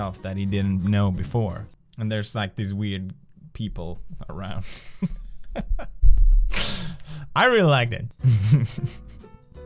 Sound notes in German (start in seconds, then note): 4.6 lacht; 6.5 atmet ein; 8.2 lacht weiter